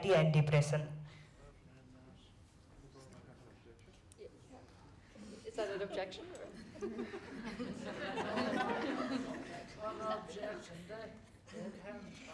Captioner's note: laughter